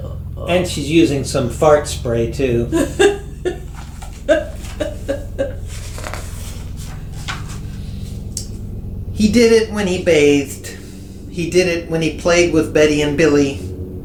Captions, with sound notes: EVEN while he's taking the bath. (laughing) He did it when he bathed. He did it when he played with Betty and Billy.